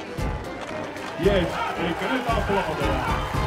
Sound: cheers

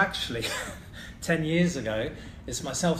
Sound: laughs

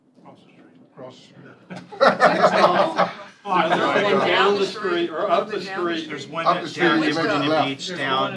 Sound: laughter

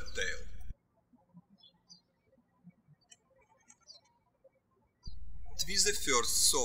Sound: birds chirping

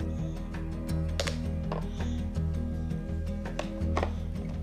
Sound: objects hitting

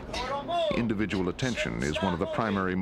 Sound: voiceover

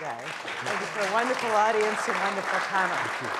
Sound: audience applauding

